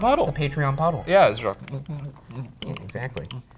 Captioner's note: smacks lips